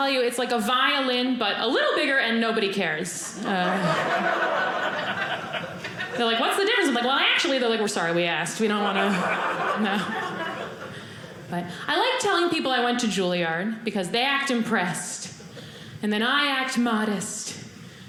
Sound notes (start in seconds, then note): 3.3 audience laughing